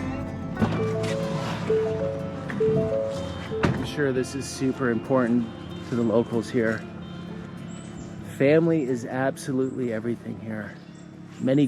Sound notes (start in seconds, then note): 0.6 car door alert beeping